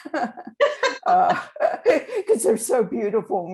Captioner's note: both laughing